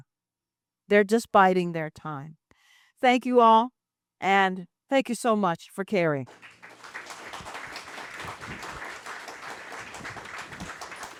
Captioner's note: applause